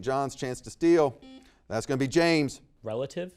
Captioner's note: buzzer beeps